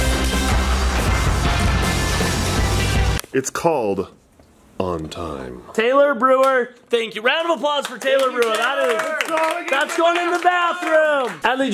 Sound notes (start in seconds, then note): 0.0 upbeat music; 8.9 applause